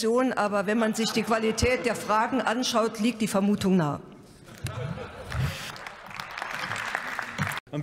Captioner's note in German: Heiterkeit bei der CDU/CSU sowie bei Abgeordneten der FDP